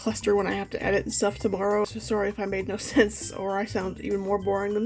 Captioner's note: laughs